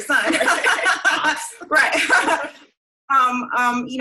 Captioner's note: laughing